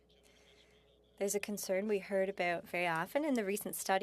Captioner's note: speaking French